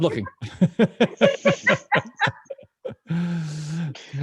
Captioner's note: laughter